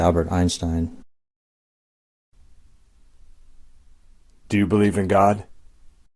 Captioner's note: silence